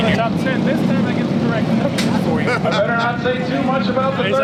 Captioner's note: laughs